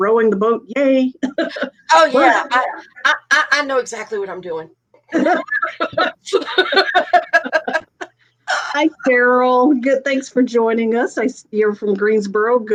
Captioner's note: laughing